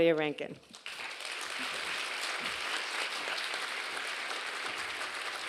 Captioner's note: audience applauding